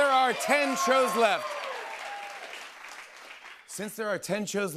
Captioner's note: cheers and applause